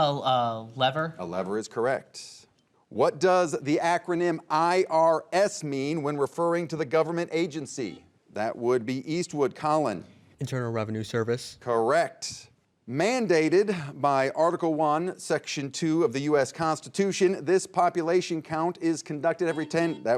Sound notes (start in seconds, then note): 7.8 buzzer beeping; 19.4 buzzer beeping